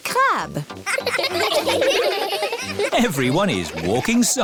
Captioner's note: laughing